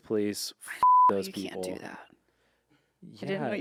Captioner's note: beep